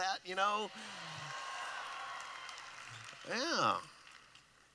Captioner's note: applause